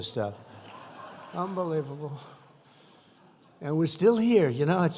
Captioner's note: laughter